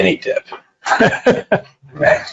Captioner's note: laughing